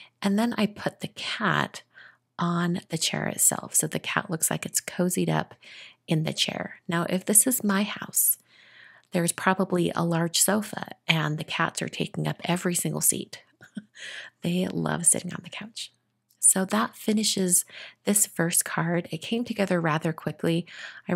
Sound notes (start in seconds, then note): 13.6 chuckles